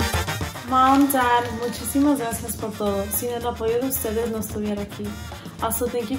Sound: speaks in foreign language

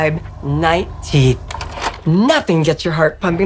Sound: projector clacks

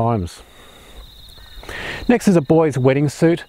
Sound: birds chirping

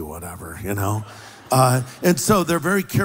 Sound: laughter

